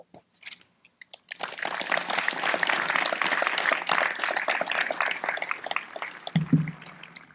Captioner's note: applause